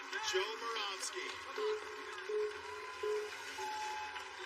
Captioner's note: countdown clock beeping